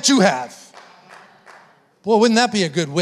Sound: congregation members clapping

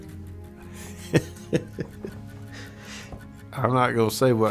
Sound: laughter

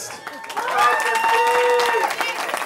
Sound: cheering

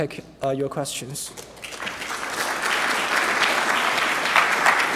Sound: applause

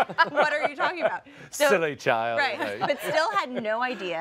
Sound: laughter

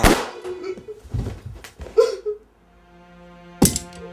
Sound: gun fires; Ricky sobs; sad music

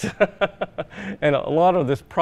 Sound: laughs

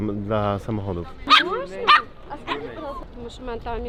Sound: dog barking, people talking in the background

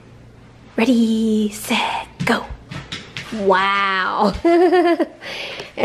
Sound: laughs

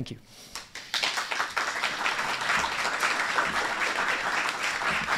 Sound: applause

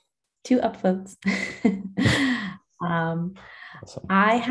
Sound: chuckles

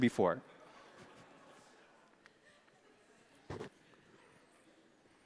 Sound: congregation laughing

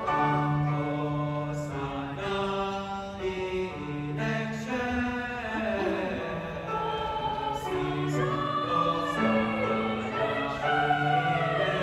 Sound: voices

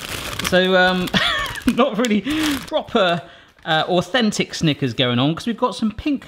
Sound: laughing

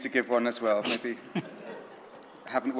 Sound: audience laughs

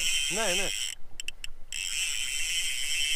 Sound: spinning reel sounds

